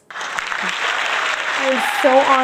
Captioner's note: audience applauding